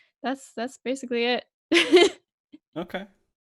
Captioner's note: laughs